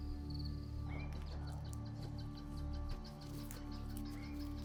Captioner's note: birds chirping